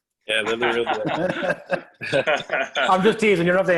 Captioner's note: laughing